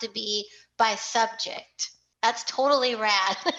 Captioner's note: laughter